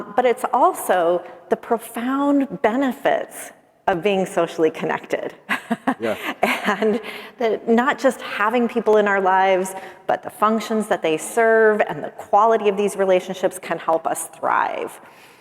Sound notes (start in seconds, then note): 5.5 chuckles